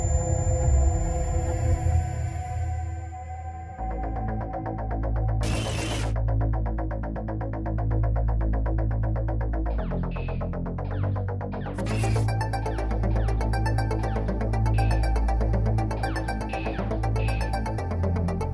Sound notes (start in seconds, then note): 5.4 glitching noise; 11.8 glitching noise; 14.8 8-bit game noises